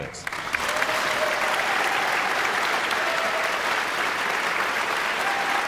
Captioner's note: guests cheering and applauding